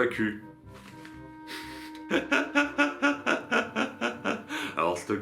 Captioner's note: laughs